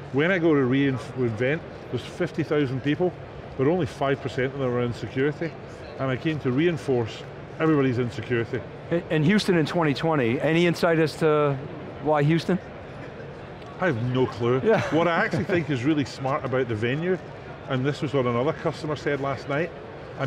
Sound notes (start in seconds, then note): 14.6 laughs